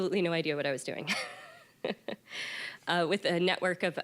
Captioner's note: laughing